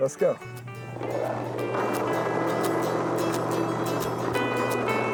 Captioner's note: bumping and bouncing sounds